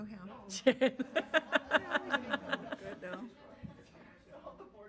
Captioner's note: audience laughs